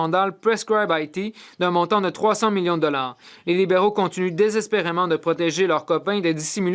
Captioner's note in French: voix de l'interprète